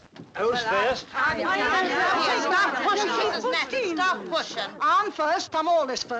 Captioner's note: people chattering